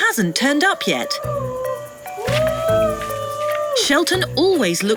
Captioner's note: man yelling